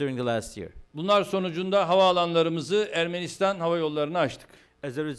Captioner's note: non-english speech